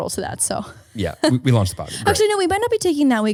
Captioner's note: laughing